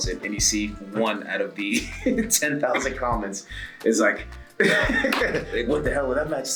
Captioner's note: laugh